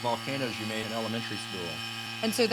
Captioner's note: machine buzzing, bubbling